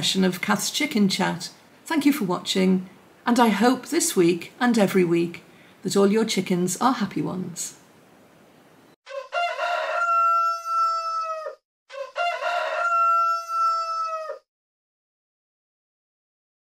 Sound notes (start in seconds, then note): 9.0 rooster crows